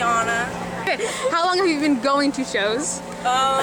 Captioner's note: laughter